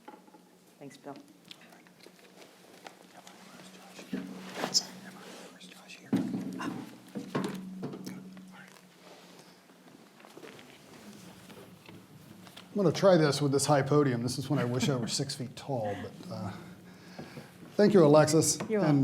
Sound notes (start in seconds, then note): 3.3 whispering